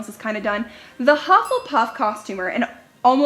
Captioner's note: dings